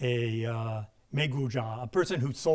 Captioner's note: speaking in a foreign language